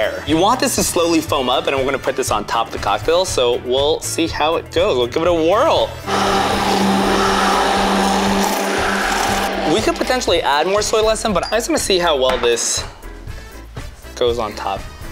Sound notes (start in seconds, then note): 6.0 jazzy music continues; 6.0 blender whirring